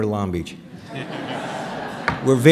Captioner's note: laughter